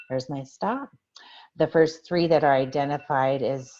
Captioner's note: alarm